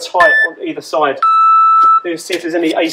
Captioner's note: beep